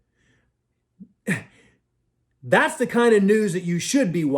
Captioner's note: scoffs